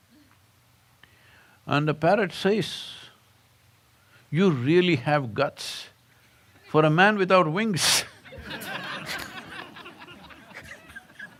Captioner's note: laughter